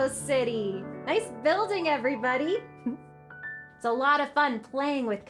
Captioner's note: giggles